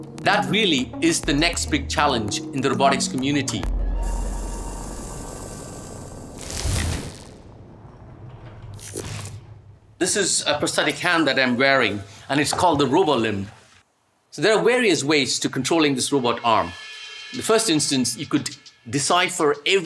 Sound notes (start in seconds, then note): 4.5 light techno music; 6.3 screen whooshes